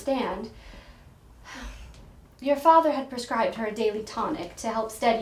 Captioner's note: sighs